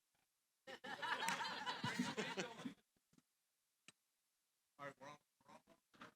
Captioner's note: laughter